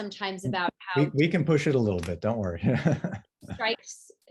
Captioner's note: chuckles